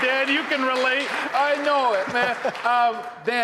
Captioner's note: laughing